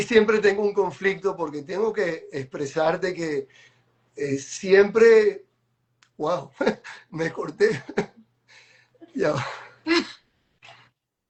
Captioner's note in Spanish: risas